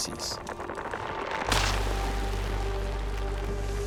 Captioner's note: crunching